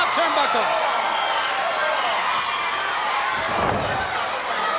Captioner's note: crowd cheering